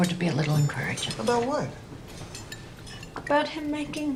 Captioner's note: dishes clinking